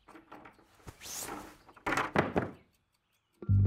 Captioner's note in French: ouverture de la porte